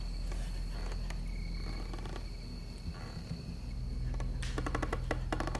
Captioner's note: floor boards creaking